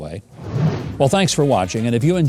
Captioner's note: whooshing